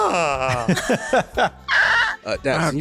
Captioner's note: laughter